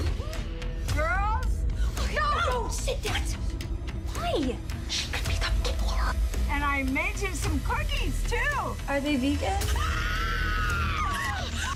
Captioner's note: screaming